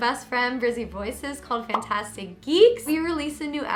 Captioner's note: bubble pops